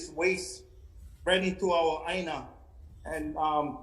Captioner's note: speaking foreign language